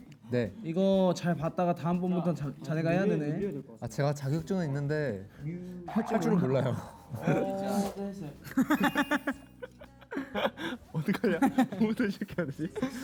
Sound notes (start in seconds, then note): 8.4 laughing